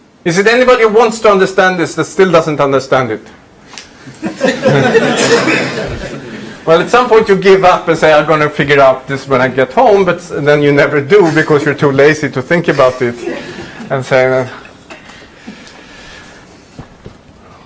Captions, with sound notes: Is it anybody who wants to understand this that still doesn't understand it? (laughter) Well, at some point you give up and say, "I'm gonna figure out this when I get home." But then you never do because you're too lazy to think about it and say,